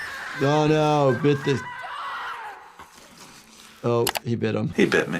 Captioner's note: child screaming; people screaming